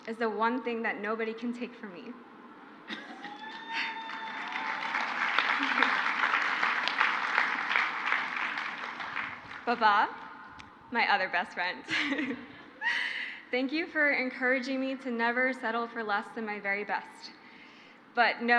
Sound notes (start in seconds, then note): 3.0 crowd applauds; 11.8 she laughs